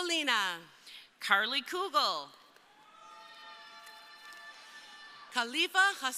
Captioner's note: crowd cheering